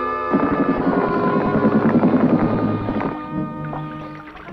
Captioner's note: creature growling